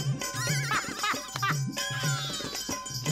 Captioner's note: laughing